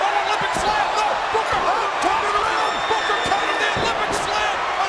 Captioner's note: announcers chattering